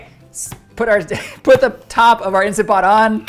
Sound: chuckles

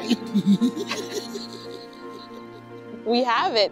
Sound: laughs

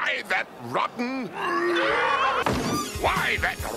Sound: lion sounds

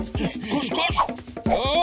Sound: struggling noises

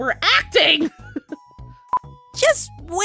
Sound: laughs

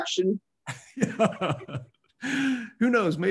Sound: laughs

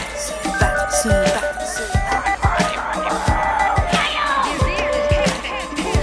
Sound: adlibs of hybrids talking in different langauges

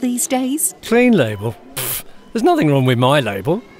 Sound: blows raspberries

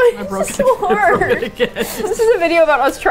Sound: laughs

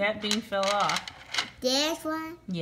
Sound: voiceover

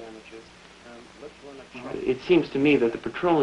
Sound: indistinct chatter

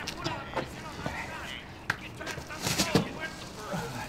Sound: coughing

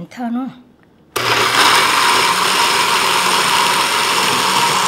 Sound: whirring

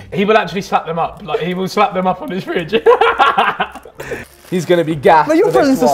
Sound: laughs

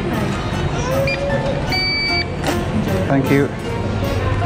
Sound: beeping

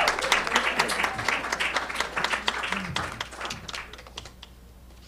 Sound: audience clapping

